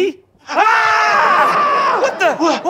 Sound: screaming

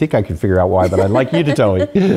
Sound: laugh

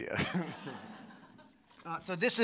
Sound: laughter

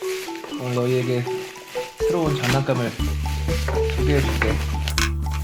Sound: rustle

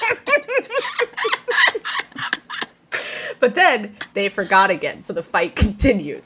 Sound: laughing

